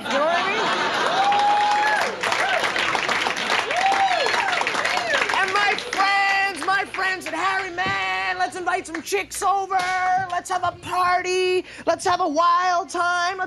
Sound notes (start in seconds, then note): 0.0 audience laughing; 0.6 audience clapping and hollering